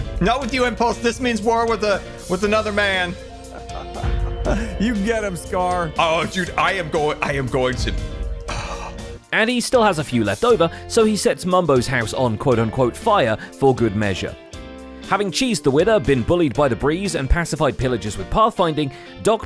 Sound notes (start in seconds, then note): 3.3 laughs; 8.4 sighs